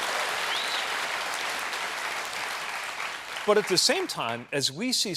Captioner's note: applause